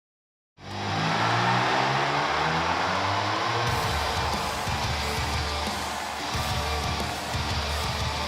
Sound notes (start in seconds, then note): 0.6 audience cheering; 1.8 upbeat rock music